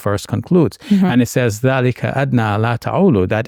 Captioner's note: speaking in Arabic